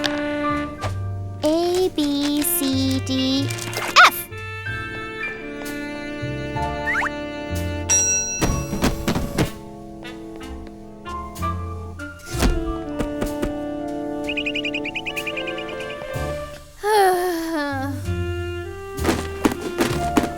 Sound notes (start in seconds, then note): 7.9 bell dings; 12.4 pats box; 14.2 bird chirps; 16.7 wistful sigh